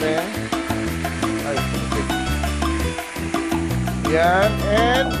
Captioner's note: sizzle